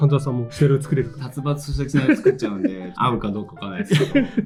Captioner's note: laughs